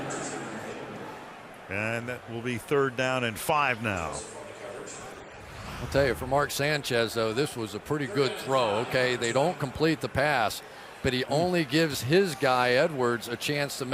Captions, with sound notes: [stadium announcements] And that will be third down and 5 now. [stadium announcements] I'll tell you, for Mark Sanchez, though, this was a pretty good throw, OK? They don't complete the pass. But he only gives his guy, Edwards,